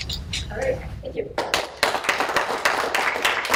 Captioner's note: applause